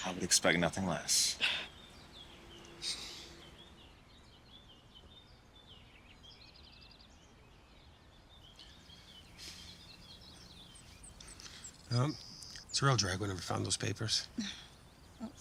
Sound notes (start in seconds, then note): 2.6 birds chirping